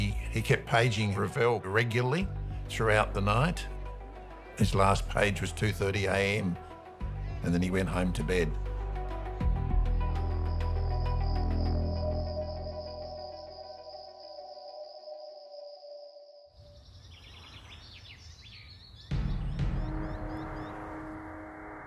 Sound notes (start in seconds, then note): 9.5 crickets chirping; 19.2 ominous music